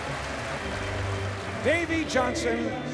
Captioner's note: crowd cheering